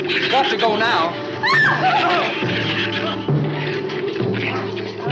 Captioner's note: Ann screams